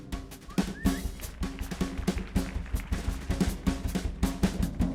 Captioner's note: audience applauding